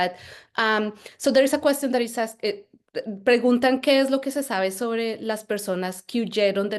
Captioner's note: speaking Spanish